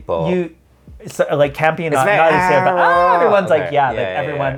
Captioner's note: scream